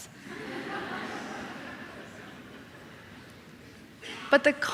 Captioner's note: audience laughing